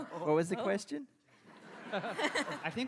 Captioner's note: laughing